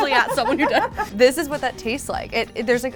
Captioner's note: laughter